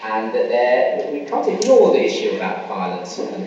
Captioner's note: voiceover